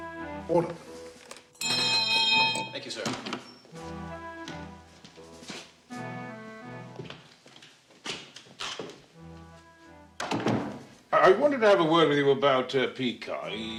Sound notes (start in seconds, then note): 1.5 rings bell